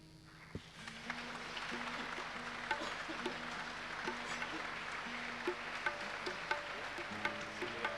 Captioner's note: clapping